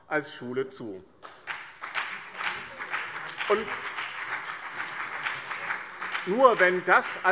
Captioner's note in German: Beifall BÜNDNIS 90/DIE GRÜNEN und CDU